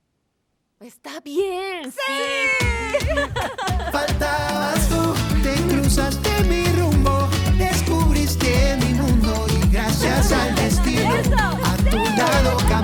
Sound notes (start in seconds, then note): 2.8 Ambas ríen; 4.4 Música latina; 10.0 Todas ríen